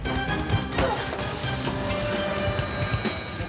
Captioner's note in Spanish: estruendo de vidrios; golpes